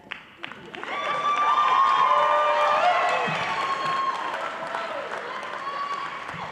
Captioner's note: applause